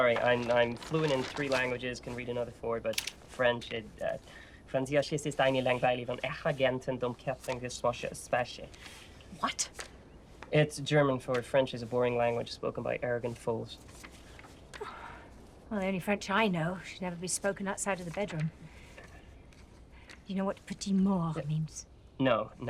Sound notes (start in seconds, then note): 4.2 speaking foreign language